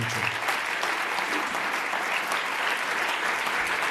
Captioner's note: audience applauds